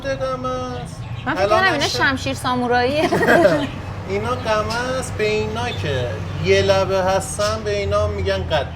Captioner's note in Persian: خنده